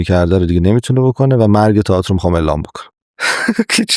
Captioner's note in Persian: خنده